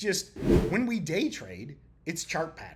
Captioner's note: text whooshing